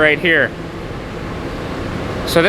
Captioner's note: buzzing sound